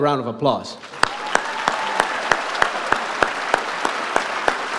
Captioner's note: audience applauds